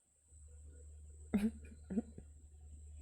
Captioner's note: chuckles